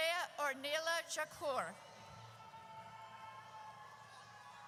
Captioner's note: audience cheers